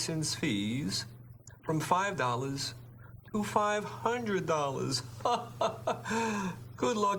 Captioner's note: chuckles